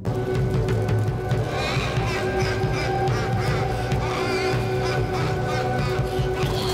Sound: laughs

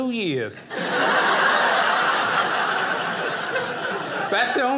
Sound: audience laughing

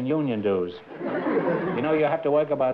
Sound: laughter

